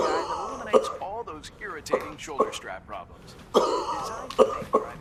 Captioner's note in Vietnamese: tiếng ho kéo dài